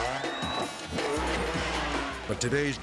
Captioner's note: spectators cheering; motor revving